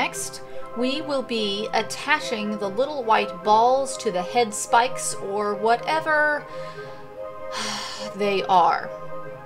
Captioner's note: audible sigh